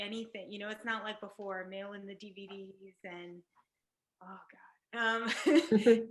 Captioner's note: laughs